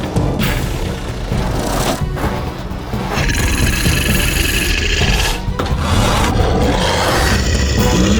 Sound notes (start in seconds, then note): 3.4 creature snarling